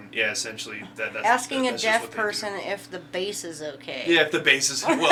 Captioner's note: sarcastically laughing